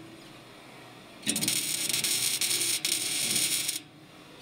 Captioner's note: sparks